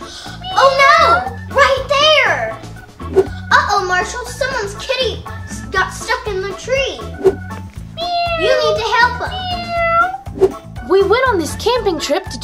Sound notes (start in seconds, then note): 0.3 gasps; 0.4 cat meowing; 7.9 cat meowing